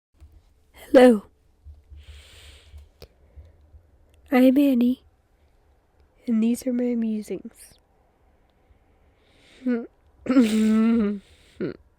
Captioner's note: clears throat